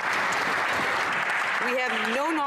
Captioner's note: some Applause